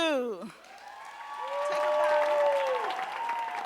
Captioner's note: audience cheering and applauding